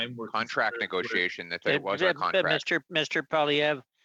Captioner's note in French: voix de l'interprète